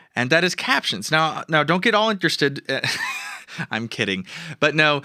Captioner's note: laughing